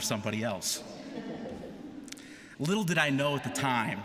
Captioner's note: laughter